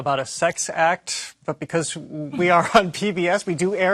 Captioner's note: chuckling